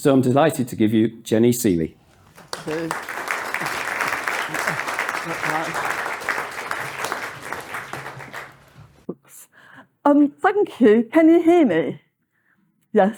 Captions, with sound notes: So I'm delighted to give you Jenny Sealey. [APPLAUSE] Thank you. Can you hear me?